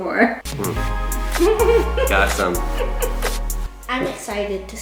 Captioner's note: laughs